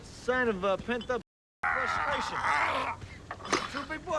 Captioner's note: Knox grunting